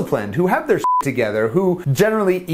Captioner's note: beep